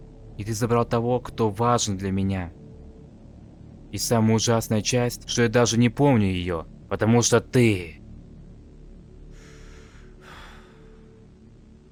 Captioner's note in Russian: вздыхает